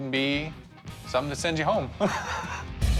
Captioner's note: laughs